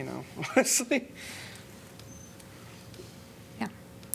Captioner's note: laughter